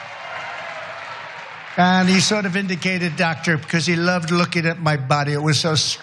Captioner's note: applause